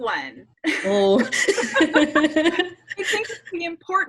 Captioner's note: both laughing